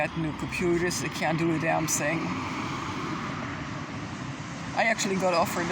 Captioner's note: traffic noise